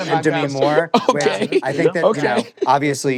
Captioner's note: laughing